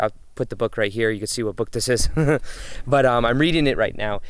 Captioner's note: chuckles